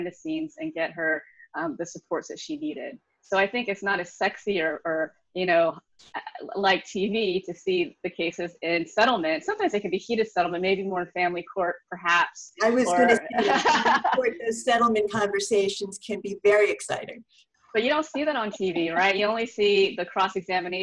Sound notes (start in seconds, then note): 12.6 laughs